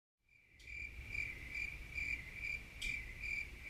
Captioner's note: crickets chirping